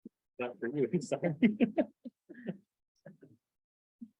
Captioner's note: chuckling